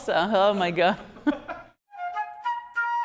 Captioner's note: laughter; flute music